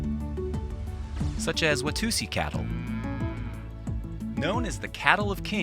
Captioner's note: cattle mooing